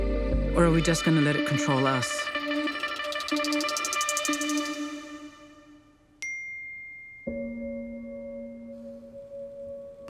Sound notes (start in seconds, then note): 3.6 frantic music; 6.2 message alert chimes